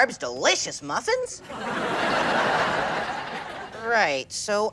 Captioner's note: laughs